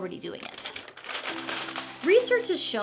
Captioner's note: paper crinkling